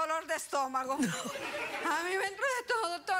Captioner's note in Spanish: risas